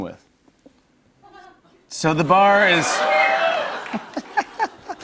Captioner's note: cheers